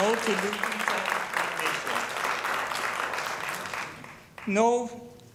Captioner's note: applause